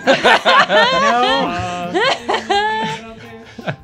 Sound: laughter

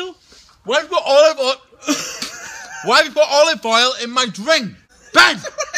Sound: spits

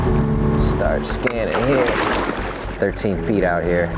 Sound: water splashing

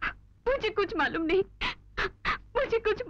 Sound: sobbing

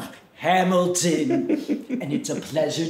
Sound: Glenda chuckles

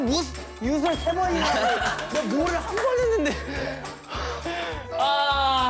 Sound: cries out into the air in distress

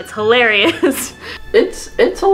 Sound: laughs

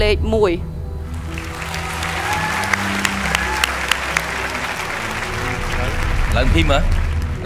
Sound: cheer and applause

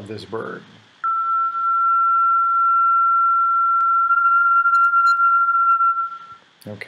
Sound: barely-filtered tinamou sound

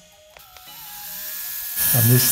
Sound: air pump whirring

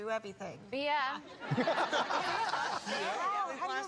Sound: laughter

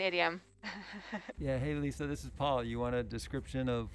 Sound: male Voice

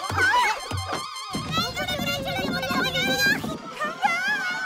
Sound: babbling

